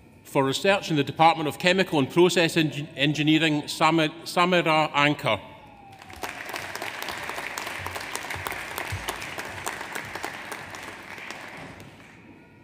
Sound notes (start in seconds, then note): 5.7 audience applauds